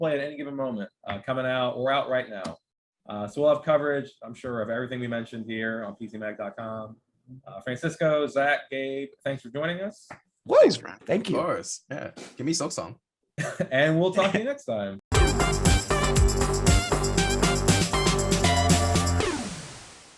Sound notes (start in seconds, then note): 13.6 laughing; 15.1 energetic electronic music